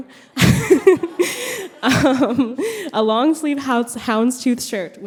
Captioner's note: brief laughter